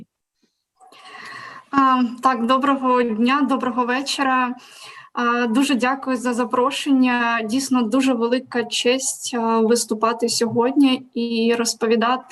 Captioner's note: foreign Language